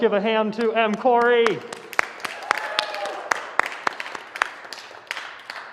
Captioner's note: applause